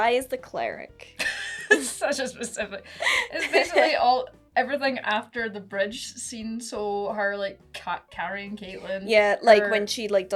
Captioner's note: laughs